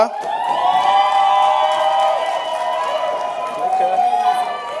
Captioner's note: crowd cheering